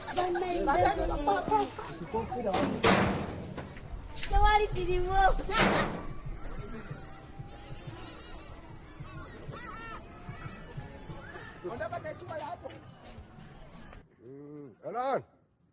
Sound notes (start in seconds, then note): 0.2 children muttering in Luganda; 6.4 birds crying